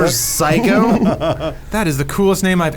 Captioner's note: laughs